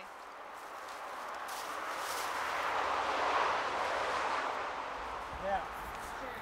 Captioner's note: traffic noise